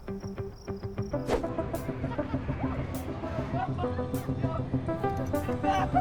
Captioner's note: light upbeat music; visitors chattering; visitor exclaims and laughs